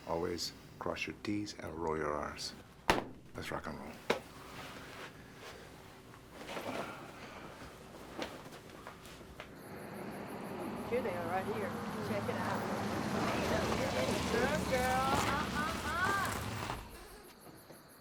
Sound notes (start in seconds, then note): 6.3 coat rustling; 9.9 car engine roaring; 9.9 insects chittering; 14.1 prostitutes clamoring